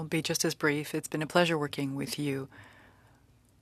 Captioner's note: speaking French